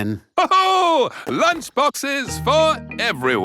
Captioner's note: laughs